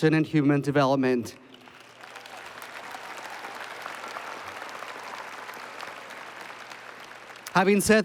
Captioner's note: applause